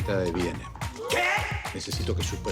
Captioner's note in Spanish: Exclamaciones